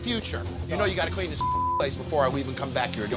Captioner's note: beep